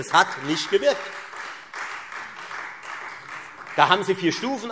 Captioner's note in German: Beifall Freie Demokraten und vereinzelt SPD